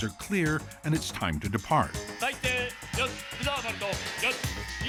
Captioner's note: speaking Japanese